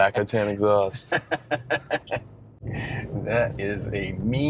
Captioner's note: laughing